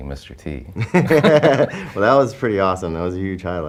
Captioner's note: laughing